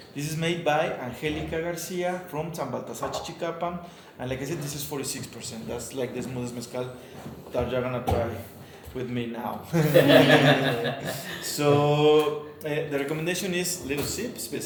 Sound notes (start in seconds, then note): 9.8 all laugh